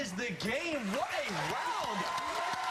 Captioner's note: cheers and applause